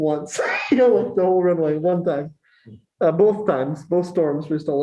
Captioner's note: laughter